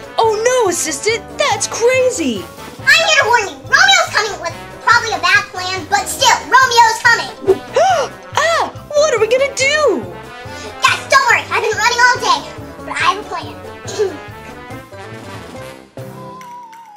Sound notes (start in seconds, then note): 7.5 Catboy gasping; 14.4 fast music